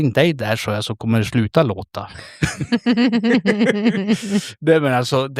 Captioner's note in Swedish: skratt